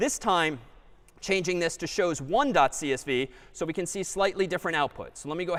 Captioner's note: none